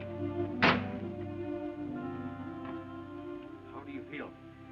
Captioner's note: door thuds